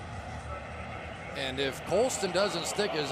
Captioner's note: pa announcement